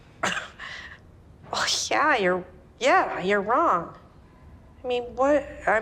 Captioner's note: character scoffs